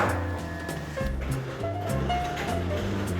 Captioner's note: rattling